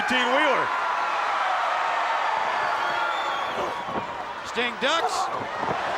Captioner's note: applause